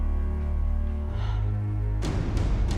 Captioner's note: gasps